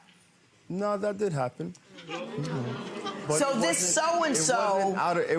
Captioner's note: audience groans